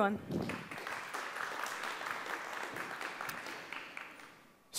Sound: applause

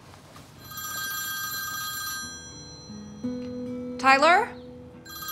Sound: phone rings; phone rings

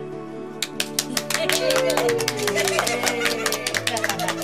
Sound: cheering

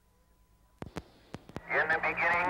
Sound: low Static Hum; Static

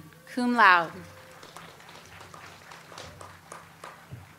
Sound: audience applauds

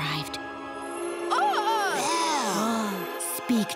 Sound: gasping

